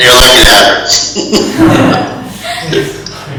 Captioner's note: laugh